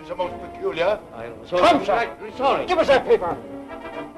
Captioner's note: men protesting